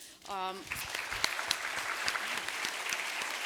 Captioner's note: applause